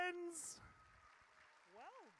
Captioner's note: audience cheers